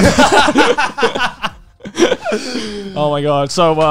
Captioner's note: laughs